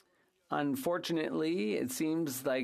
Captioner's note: speaking French